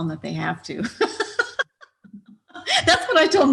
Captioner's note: laughs